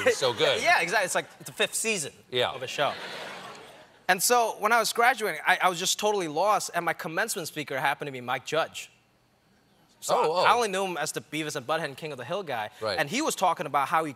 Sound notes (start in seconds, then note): 2.6 laughter